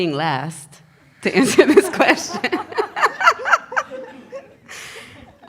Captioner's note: laughs